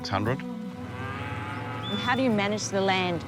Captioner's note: cows moo